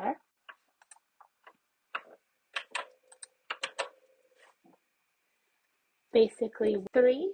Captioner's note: keyboard and mouse clicks